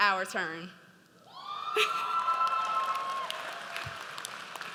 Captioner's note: audience cheers